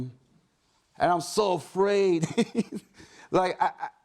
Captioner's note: chuckles